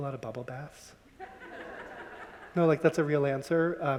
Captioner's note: audience laughing